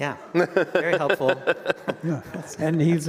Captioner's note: all laugh